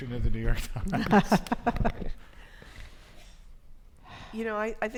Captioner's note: panelists laughing